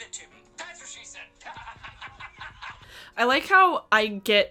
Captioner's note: laughs